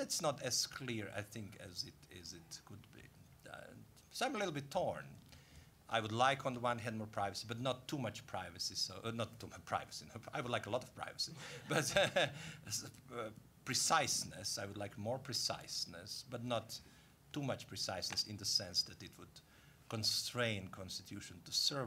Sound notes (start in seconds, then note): 11.4 laughing